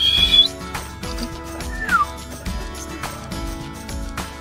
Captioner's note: whistle